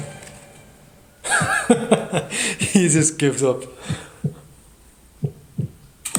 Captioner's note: laughs